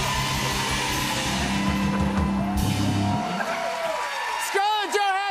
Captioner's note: cheers and applause